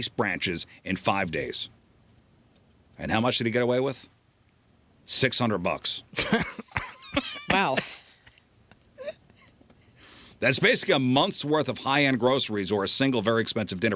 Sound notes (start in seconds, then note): 7.8 laughter